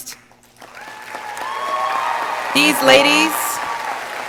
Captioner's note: audience applauding